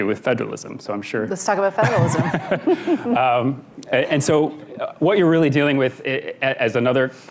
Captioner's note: laughter